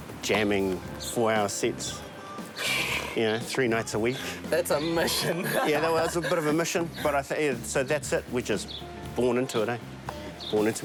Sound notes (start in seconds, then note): 2.6 chuckles; 4.6 laughing